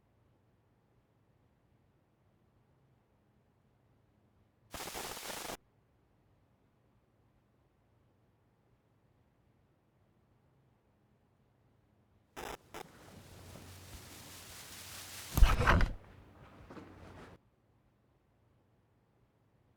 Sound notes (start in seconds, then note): 4.7 static crackling; 8.4 footsteps approaching